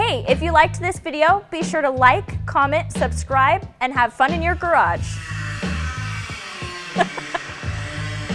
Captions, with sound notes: - Hey, if you liked this video, be sure to like, comment, subscribe, and have fun in your garage! (grinding) (laughs)